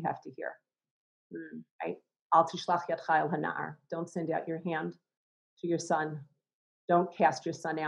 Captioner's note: Hebrew